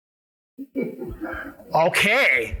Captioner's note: audience laughs